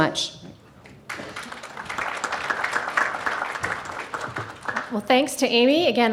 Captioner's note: audience applauding